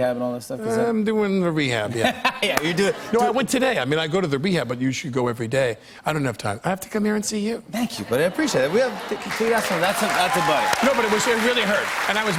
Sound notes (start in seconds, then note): 9.0 cheers and applause